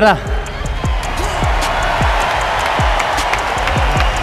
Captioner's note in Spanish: Aplausos y gritos